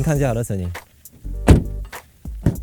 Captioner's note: thump